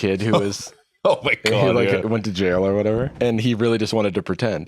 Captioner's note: laughing